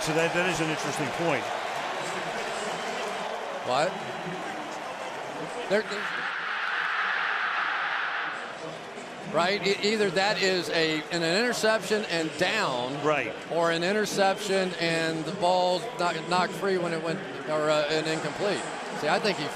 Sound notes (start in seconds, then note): 2.8 pa announcement